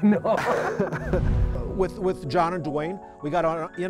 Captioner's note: laughing